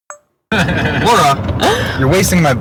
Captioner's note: laughing